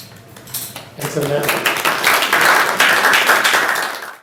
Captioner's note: students applauding